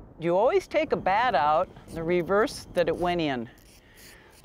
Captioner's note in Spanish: trueno rodando